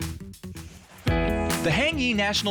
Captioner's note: air whooshing